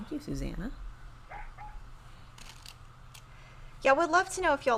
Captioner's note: Super Piggy barking